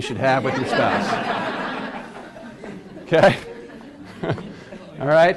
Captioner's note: class laughs